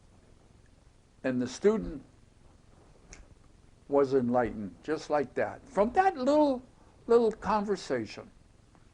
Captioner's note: snapping fingers